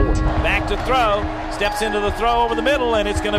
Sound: voiceover

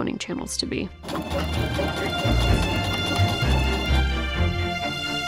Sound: A sewing machine work'n hard; adventure music

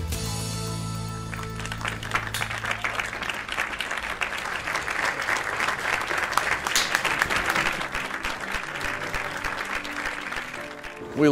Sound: clapping

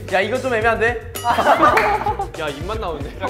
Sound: frustrated

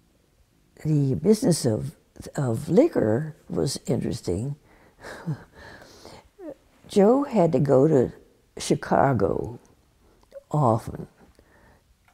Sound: laughs

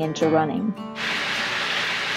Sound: sizzling pan

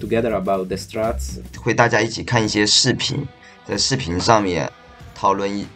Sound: speaking in foreign language

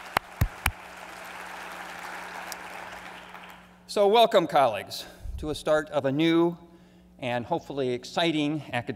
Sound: applause

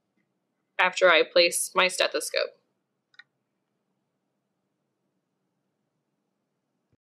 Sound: silence

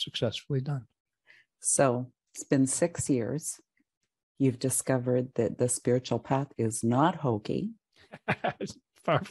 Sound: laugh

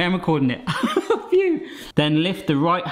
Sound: laughs

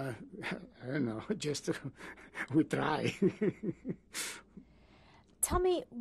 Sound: laughs

